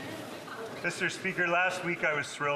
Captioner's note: some Applause